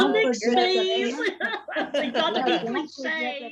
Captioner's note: laughs